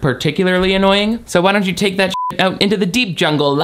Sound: beep

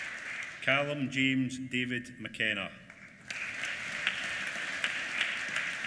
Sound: applause

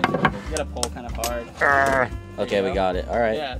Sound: grunting

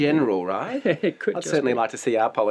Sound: chuckles

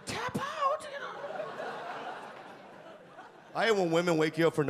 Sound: audience laugh

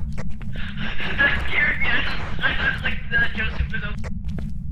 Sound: heavy breathing; over Radio

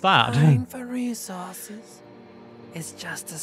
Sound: laughs

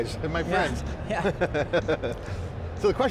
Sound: both chuckling

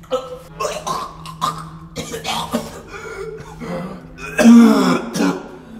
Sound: vomits

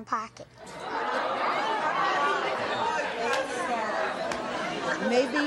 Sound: audience chattering loudly

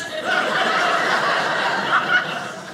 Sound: audience laughing

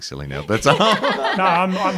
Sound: everyone laughing

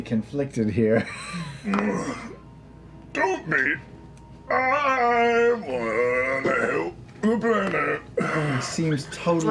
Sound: strained

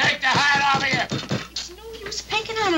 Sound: hand thudding

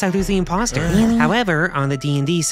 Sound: Sigburt and Guk groan

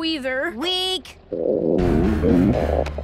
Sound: growling

